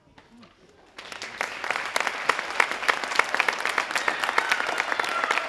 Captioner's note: audience applauding